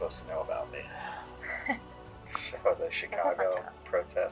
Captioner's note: laughing